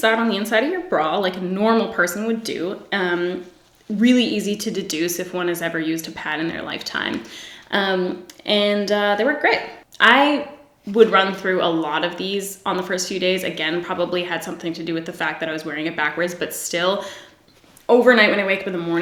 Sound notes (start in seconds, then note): none